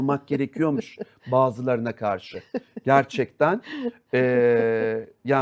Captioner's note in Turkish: kahkaha